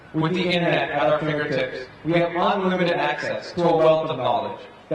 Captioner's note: none